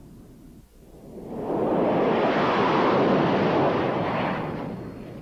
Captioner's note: jet engine roaring